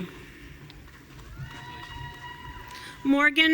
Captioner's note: audience cheering